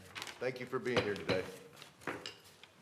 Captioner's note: gavel bang, bang